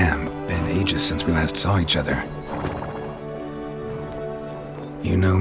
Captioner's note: none